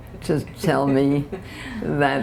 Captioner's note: laughter